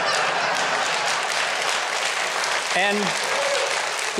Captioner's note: audience applause